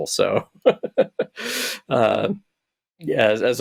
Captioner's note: chuckles